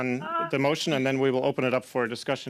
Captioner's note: speaking french